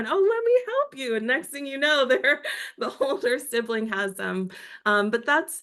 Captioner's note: laugh